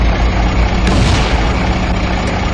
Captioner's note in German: Krachen